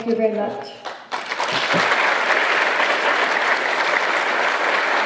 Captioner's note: applause